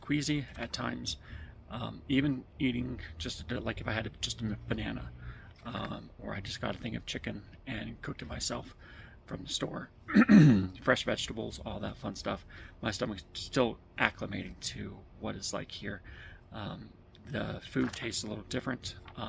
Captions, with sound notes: queasy at times. Um even eating just like if I had just a banana um or I just got a thing of chicken and cooked it myself from the store, [clears throat and cough] fresh vegetables, all that fun stuff, my stomach's still acclimating to what it's like here. Um the food tastes a little different.